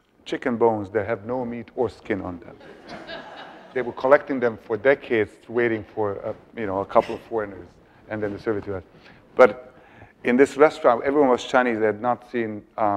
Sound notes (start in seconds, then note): 2.6 audience laughs